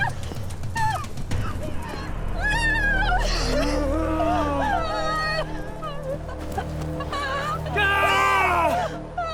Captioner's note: sobbing, wailing; screams